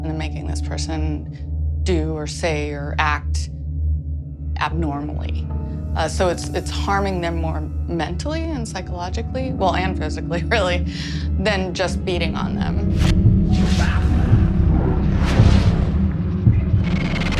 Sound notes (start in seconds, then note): 13.4 ghostly voices